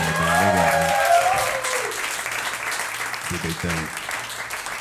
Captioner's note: audience applauding